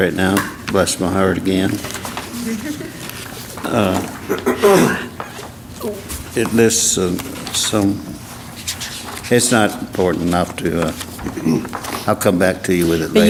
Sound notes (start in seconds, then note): 2.2 laugh